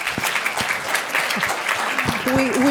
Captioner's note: applause